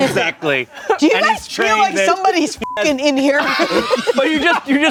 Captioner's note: beep; everyone laughs